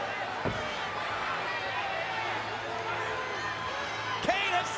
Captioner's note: crowd clamors